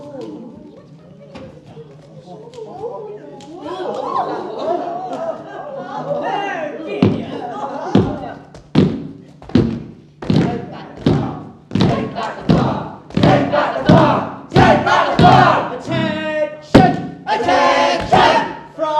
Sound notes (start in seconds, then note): 8.3 rythmic banging of sticks